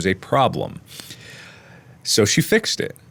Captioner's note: inhale